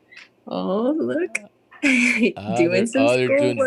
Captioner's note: laughs